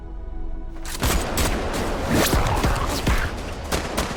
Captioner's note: guns blasting